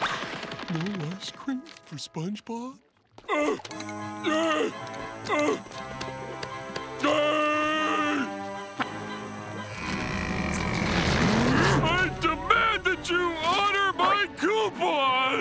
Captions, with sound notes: No ice cream for SpongeBob? [grunting] I demand that you honor my coupon!